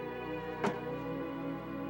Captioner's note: paper slams on sofa